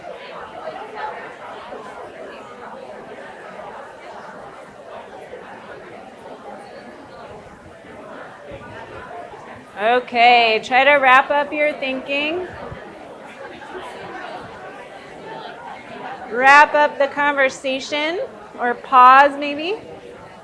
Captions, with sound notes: (people chattering) Okay, try to wrap up your thinking. Wrap up the conversation or pause, maybe.